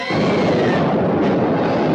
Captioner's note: explosion